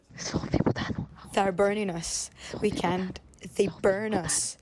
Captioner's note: through translator